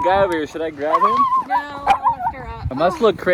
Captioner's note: dog barking